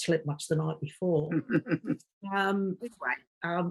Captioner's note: laughing